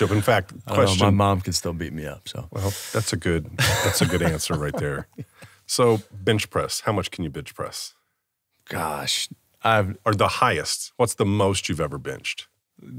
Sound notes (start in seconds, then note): 3.5 laughs